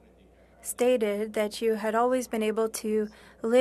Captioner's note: speaking French